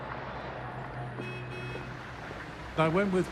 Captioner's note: passing traffic; car horn